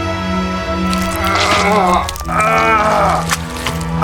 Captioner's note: screaming in pain